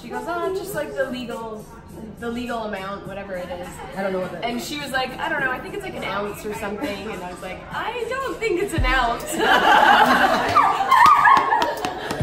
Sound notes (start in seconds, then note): 9.2 laughing